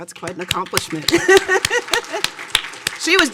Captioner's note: audience applauding